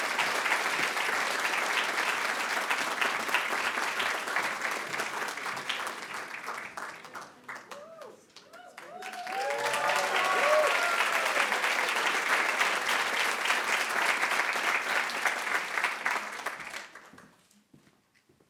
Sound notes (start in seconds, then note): 8.8 attendees wooing; 9.4 attendees applauding